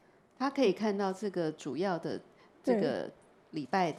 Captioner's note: Mandarin